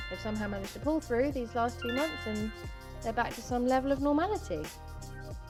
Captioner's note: notification sound